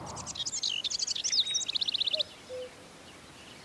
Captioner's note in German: Vogelzwitschern, Kuckucksruf